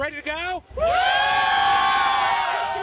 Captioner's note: crowd shouting